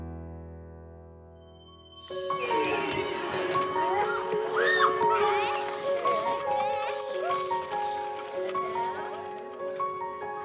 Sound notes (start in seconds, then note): 2.1 children chatter, squeal; 4.4 delicate music